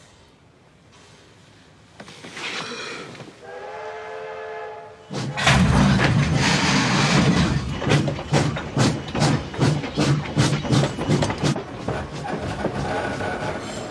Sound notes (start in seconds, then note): 3.4 train whistle blows; 7.8 steam puffs